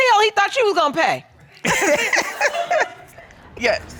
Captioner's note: all laughing